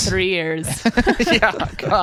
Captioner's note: laughs